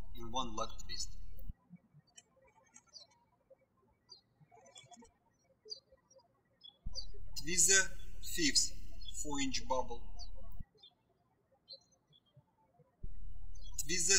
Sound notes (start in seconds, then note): 3.3 birds chirping